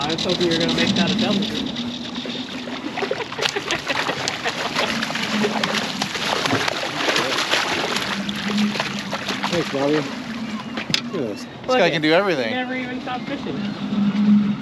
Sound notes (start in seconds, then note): 4.2 laughing; 4.9 fish splashing